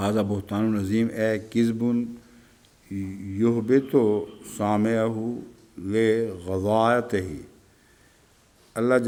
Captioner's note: Arabic